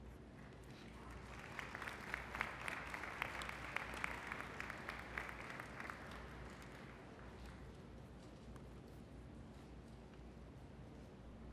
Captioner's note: applause